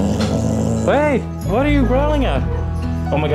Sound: growl; tongue clicks

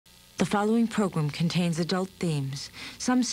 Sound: voiceover

